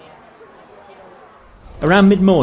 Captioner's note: crowd chattering